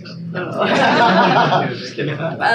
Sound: laughing

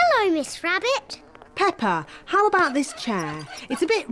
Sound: flies buzzing

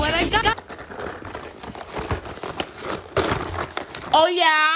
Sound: box clacking; Beanz rattling

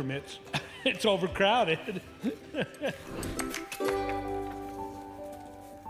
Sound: chuckles

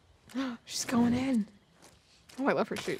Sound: gasps

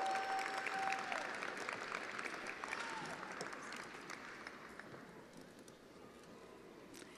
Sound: attendees applauding

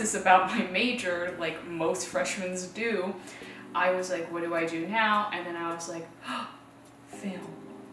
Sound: gasp

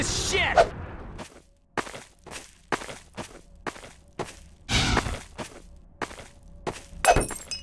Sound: snowy Footsteps

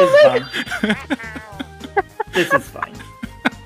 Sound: continue laughing

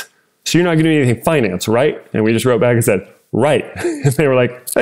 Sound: laugh

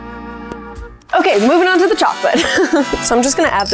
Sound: laughs

